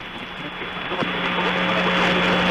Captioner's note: beeping